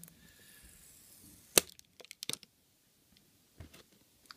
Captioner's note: plastic peeling